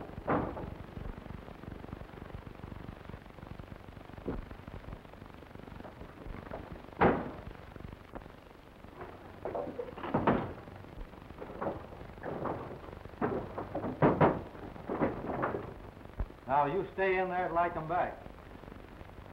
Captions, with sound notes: (door thuds) (door thuds) (fist pounding) Now, you stay in there till I come back.